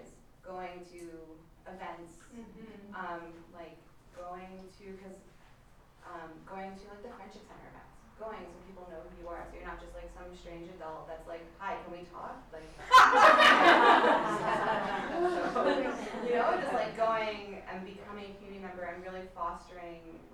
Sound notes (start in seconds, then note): 12.8 laughter